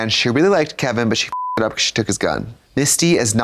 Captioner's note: beep